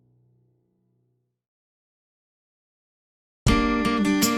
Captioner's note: silence; instrumental music playing